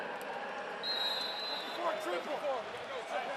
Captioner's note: whistle